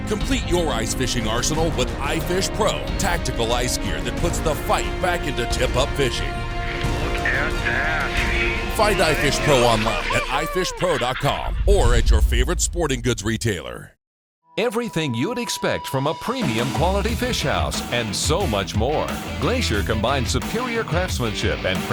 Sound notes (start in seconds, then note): 14.7 voiceover